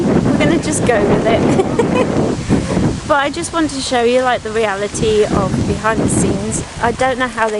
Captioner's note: laughs